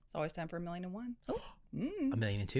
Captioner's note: gasp